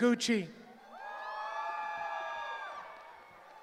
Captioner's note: cheering